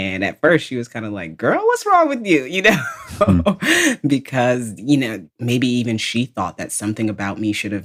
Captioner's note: laughs